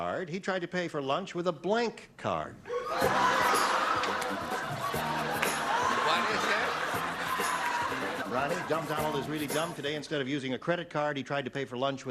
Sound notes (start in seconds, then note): 6.4 laughter